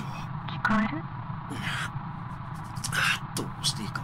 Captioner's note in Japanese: 頭をかく音：ガシガシ･･･